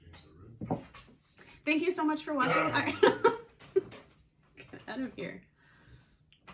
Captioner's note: disgusting fake coughing